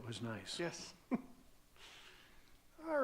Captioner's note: chuckles